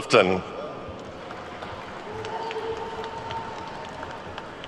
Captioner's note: attendees clapping